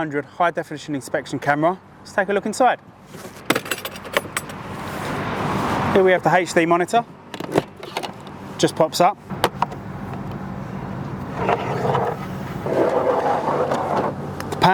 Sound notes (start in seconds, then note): 3.4 clasps clanging; 3.9 traffic whooshing; 7.5 monitor clattering; 9.4 clip snapping; 11.5 cable whooshing